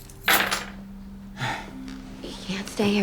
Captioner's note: sighs